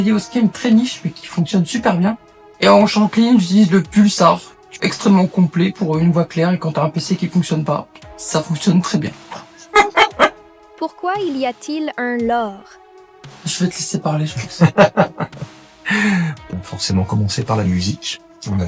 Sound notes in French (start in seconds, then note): 14.4 Rires